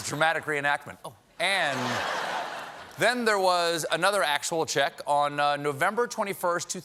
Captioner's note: laughter